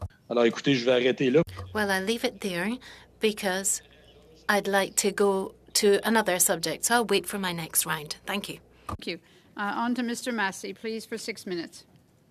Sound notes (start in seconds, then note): 5.1 speaking French